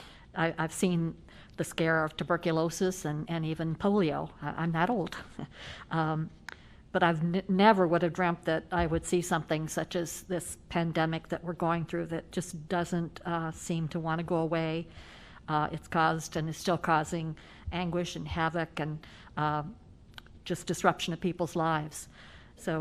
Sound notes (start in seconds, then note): 5.9 laughter